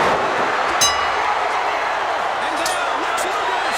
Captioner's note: bell rings